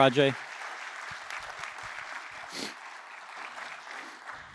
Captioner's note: applause